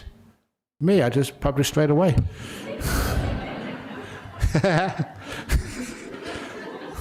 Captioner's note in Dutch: lachen